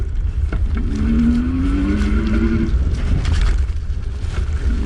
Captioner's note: motor revving